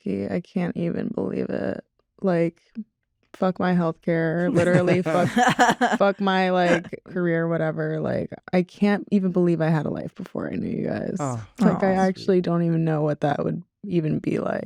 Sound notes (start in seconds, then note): 4.4 laughter